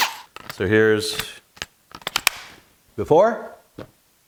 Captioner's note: drill whirs; part clicks into place